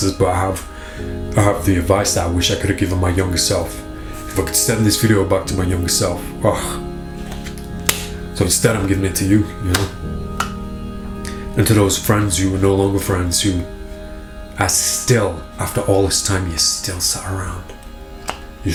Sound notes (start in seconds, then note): 7.2 hand smacks